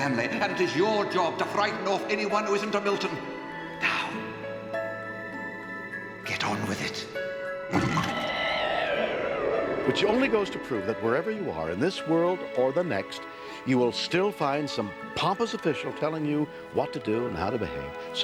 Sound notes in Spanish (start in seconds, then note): 7.7 gruñidos y zumbidos